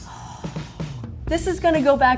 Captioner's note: cymbals crashing; exhale sharply